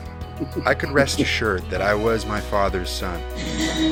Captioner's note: voiceover